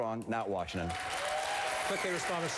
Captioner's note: applause